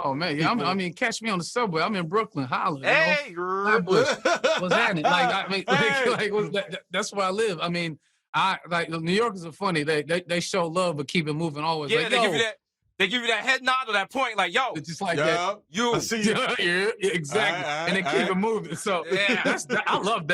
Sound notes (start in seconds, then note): 3.7 chuckles; 19.1 laughing